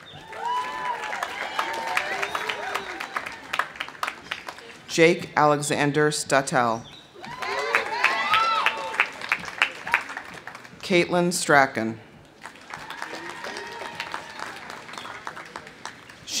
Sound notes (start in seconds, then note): 0.0 audience cheering; 0.0 audience applauding; 7.2 audience cheering; 7.2 audience applauding; 12.2 audience applauding; 12.4 audience cheering